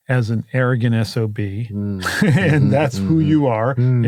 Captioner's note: laugh